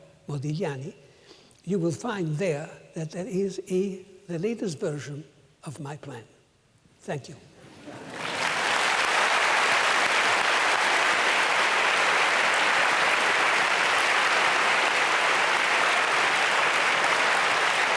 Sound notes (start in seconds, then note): 7.9 applause